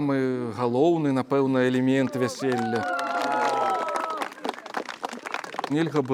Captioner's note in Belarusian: апладысменты